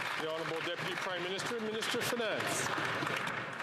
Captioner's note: some Applause